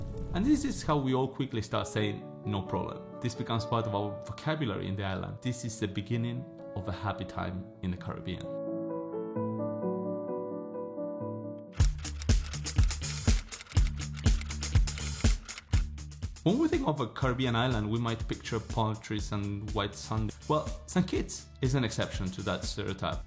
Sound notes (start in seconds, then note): 9.1 serene piano music; 11.8 keyboard typing; 14.1 upbeat music